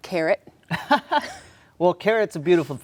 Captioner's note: laughs